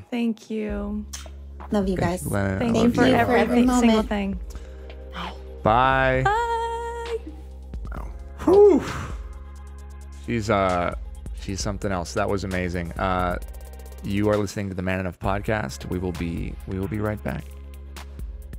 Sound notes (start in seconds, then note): 8.3 Justin sighs